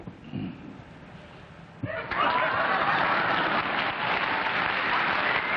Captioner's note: laughter, applause